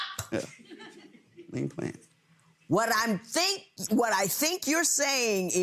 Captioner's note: audience chuckles